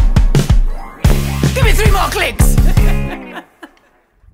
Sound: laughter

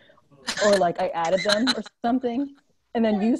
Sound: laughs

